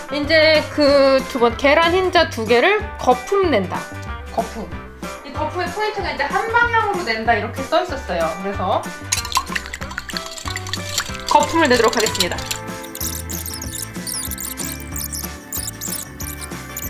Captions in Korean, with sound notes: 이제... 두 번째... 계란 흰자 2개를 거품 낸다! 거품! 이 거품의 포인트가, '한 방향으로 낸다.' 이렇게 써있었어요. 그래서~ (휘젓는 소리) 거품을 내도록 하겠습니다. - 달고나 커피 만들기 강제 체험 중 -